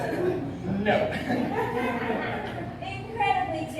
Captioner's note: laughter